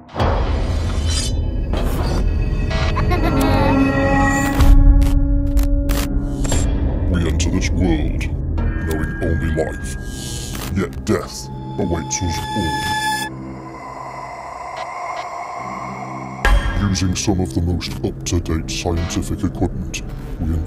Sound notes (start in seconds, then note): 0.3 dramatic music; 2.8 child laughing